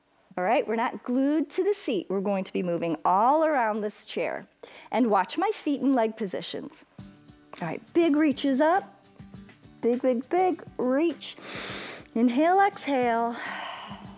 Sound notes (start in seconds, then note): 11.4 inhales; 11.4 exhales